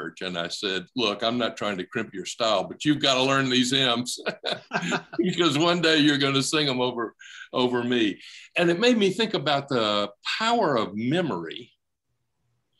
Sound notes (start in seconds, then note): 4.1 laughing